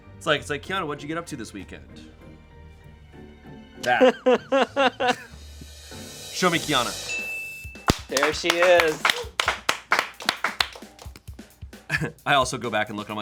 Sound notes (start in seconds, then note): 3.8 laughs; 7.0 bell chimes; 7.9 crew applauds